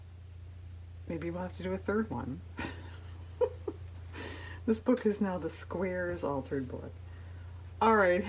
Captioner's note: laughs